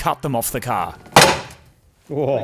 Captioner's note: clatters